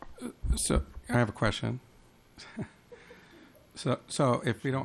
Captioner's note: chuckles